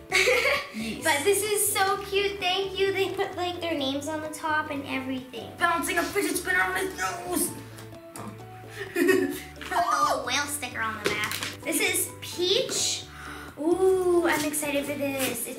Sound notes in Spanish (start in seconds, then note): 0.1 risas; 8.8 risas